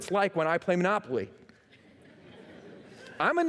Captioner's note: laughter